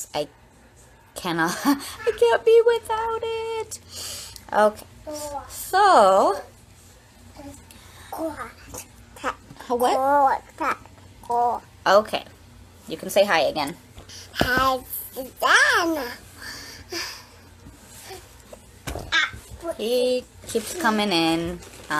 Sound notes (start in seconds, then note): 1.1 laughs; 8.2 child speaking gibberish